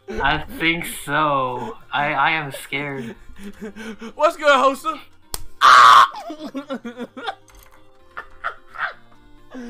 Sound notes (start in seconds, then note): 5.2 slap sound of grabbing balls; 5.6 dying laughing; 8.0 laughs